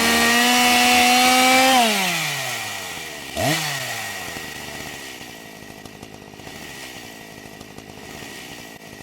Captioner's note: chainsaw sound